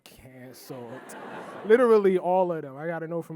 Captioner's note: audience laughing